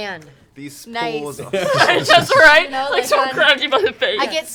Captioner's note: laughter